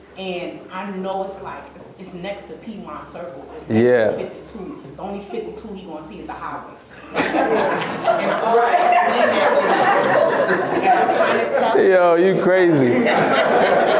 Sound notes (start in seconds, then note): 7.0 laughs